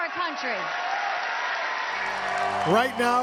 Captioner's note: audience applause